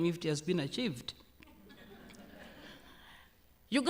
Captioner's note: laughter